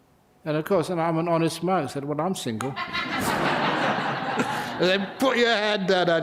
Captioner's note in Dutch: lachen